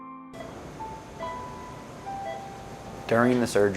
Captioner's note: somber piano music; beeping